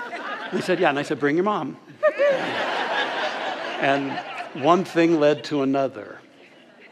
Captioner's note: audience laughter